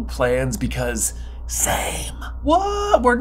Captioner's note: whisper